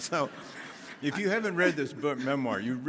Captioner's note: audience laughs